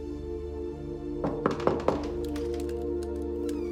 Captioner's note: knocking on door